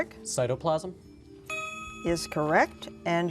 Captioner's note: dinging